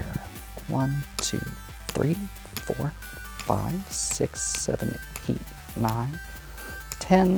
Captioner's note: tokens clatter in turn